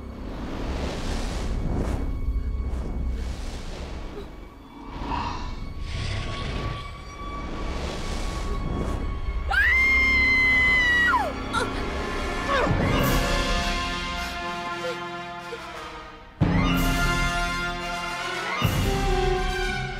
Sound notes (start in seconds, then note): 3.2 sobbing; 9.5 screaming; 13.2 taking deep breaths